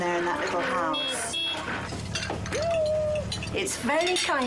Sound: horn honking

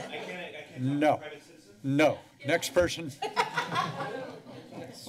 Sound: laughter

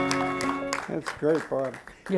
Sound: applauding

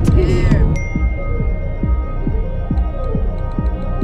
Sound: phone chime

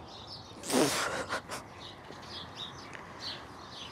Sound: laughs

